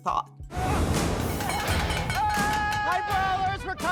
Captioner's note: clanging utensils